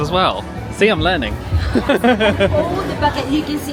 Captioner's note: laughing